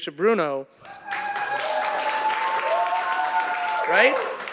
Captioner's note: audience applauding